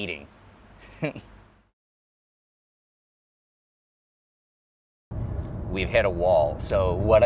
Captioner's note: laughs